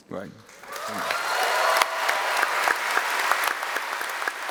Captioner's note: applause